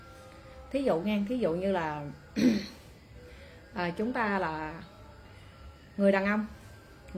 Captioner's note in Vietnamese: hắng giọng